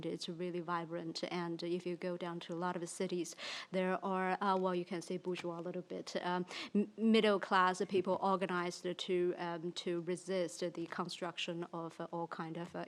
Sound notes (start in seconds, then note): 5.0 speaks in foreign language